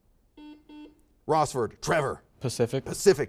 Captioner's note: series of beeps